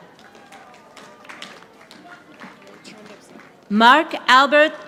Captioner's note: audience applauding